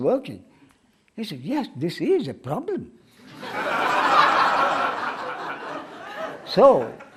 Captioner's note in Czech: smích